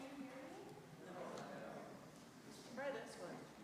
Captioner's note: congregation murmurs